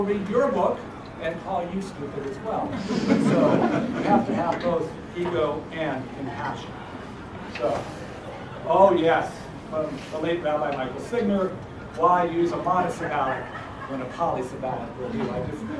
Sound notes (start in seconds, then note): 2.7 laugh